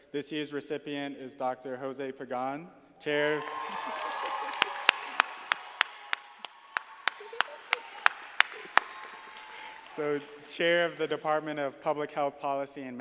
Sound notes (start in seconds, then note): 3.2 audience applauding; 4.0 laughing